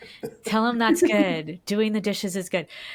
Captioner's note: laughs